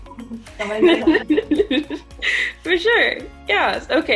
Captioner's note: laughs